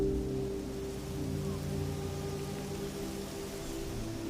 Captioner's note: leaves rustling